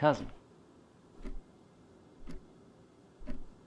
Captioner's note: clock ticking